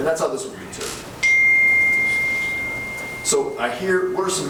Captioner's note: phone chiming